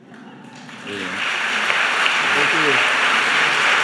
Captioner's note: audience applauding